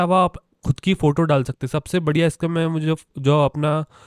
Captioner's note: inhales deeply